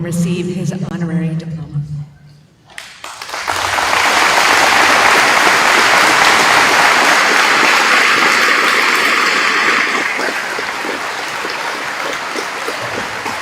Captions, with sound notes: receive his honorary diploma. [APPLAUSE]